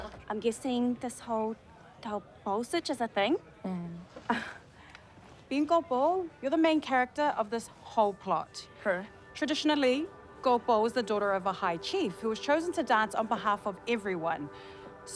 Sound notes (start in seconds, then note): 4.5 scoffs